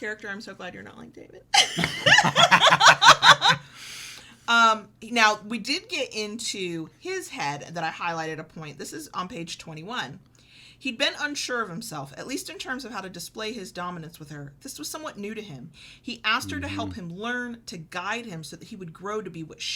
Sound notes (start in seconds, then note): 1.6 laughs